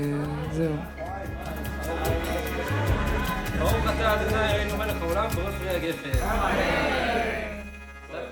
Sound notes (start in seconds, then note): 1.9 people chattering in foreign language